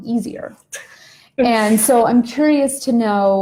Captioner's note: laughing